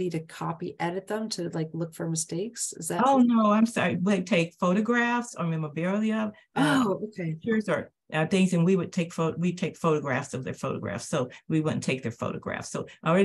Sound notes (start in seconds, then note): none